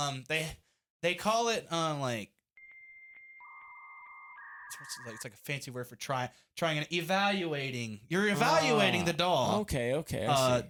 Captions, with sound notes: they, they call it, um, like. (modem thinking sounds) It's like, it's like a fancy word for trying, trying, evaluating. You're evaluating the DAW. Okay, okay.